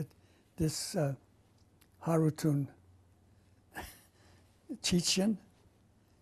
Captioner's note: non-english; pauses for 3 seconds